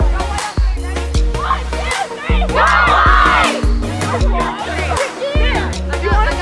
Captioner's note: shouting